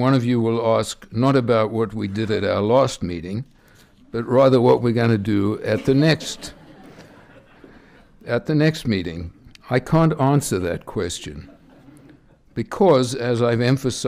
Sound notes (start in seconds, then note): 5.7 laughter